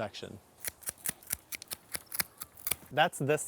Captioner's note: trimmers snipping